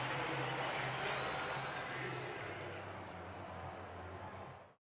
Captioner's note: pa announcement